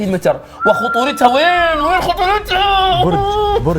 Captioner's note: whistels